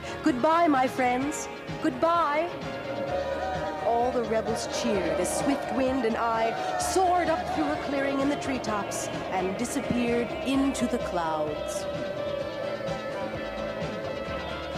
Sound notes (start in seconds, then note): 2.8 cheers